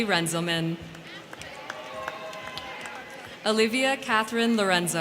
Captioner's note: crowd clapping; crowd cheering